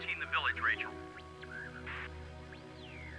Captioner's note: radio static crackles